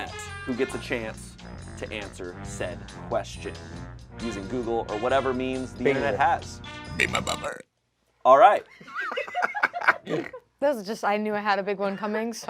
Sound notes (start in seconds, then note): 6.9 burps; 8.8 laughs